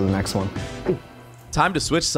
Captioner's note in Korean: 꿀꺽